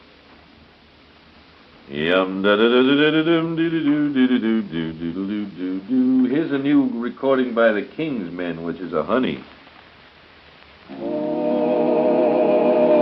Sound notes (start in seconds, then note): 1.8 humming